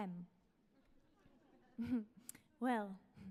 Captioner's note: audience laughs